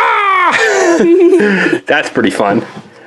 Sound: laughs

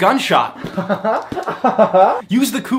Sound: laughing

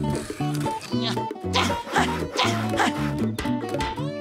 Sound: grunting

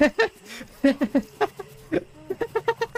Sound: laughing; even more laughing; more laughing

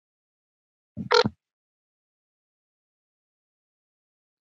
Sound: phone rings

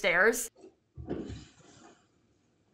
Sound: loud thuds

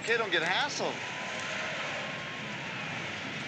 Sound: police sirens in background

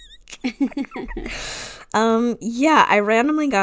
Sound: laughs

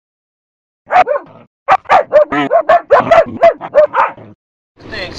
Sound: barks

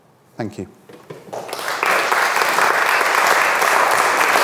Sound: audience applauds

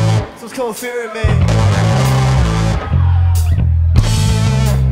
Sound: audience cheers

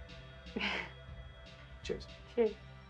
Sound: she chuckles

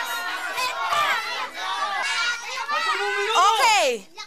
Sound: indistinct shouting

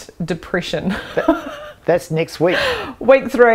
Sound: chuckling

